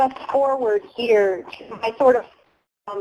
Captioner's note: distorted audio